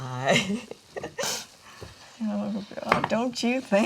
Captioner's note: Dory chuckles